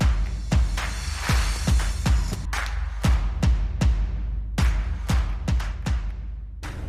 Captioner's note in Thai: ปรบมือ